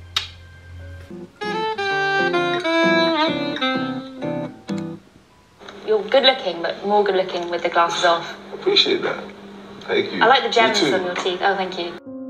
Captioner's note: sounds from the laptop